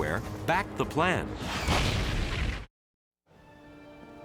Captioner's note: bomb bursting